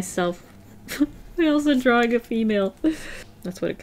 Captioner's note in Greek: χαχανητό